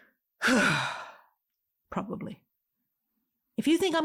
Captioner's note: sighs